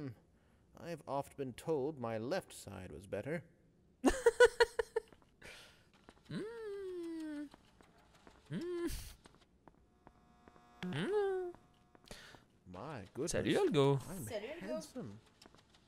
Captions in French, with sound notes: - On m'a souvent dit que mon profil gauche était mieux... (rire) (bruits dubitatifs) - Mon Dieu, que je suis beau ! - Salut, Algo !